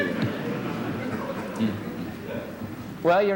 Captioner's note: laughter